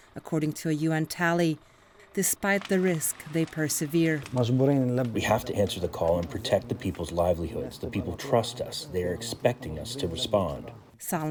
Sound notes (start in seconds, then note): 5.4 through translator